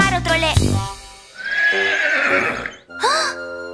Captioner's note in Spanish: Relincho